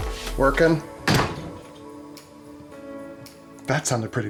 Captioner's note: door slams